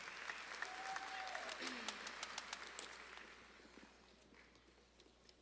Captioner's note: audience claps and cheers